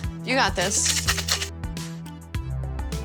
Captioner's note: drink shaking; soft upbeat music